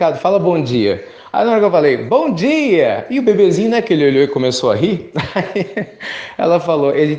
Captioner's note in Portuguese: risos